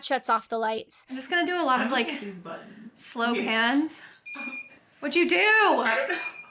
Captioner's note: machine beeping